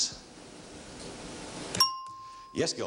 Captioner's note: ringing bell